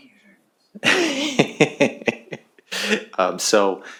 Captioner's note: laughter